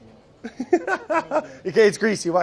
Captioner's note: laughs